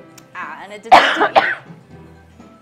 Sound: coughing

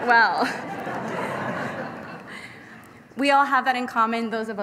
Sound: laughter

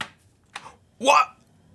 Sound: taps

